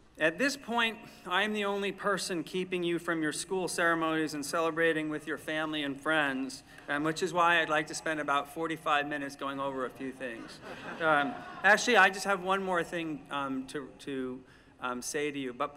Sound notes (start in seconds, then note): 10.2 laughter